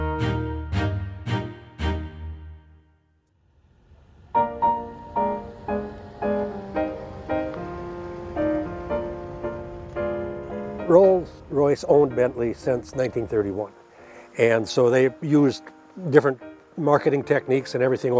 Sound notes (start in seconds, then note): 3.4 engine whirring; 4.8 bright music